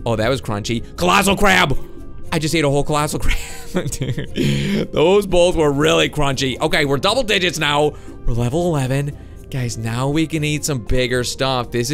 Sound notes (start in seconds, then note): 3.5 laughing